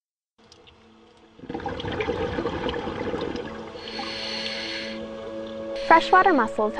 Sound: bubble sounds

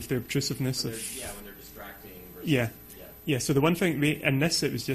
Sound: voiceover

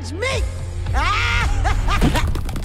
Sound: laugh

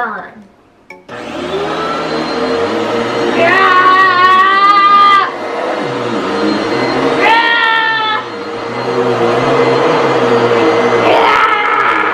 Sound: vacuum running

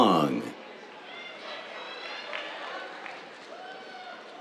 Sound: cheers, applause

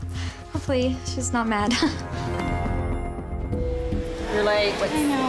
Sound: nervous laugh

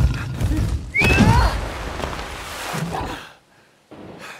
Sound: Old Master whistles

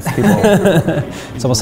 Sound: laughing

